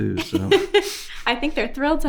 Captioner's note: host laughing